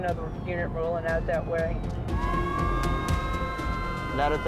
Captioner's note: overlapping sirens